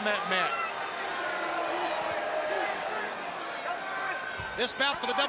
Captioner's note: crowd chatter